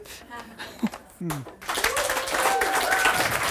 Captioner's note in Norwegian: Applaus